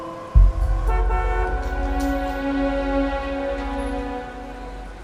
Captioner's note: horns honking; soft dramatic music